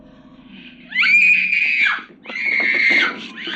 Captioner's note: woman screaming